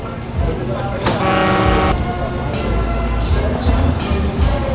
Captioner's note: horn honks